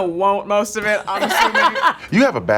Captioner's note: girls laughing